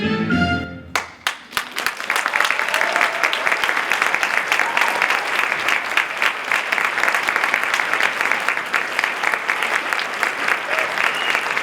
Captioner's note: applause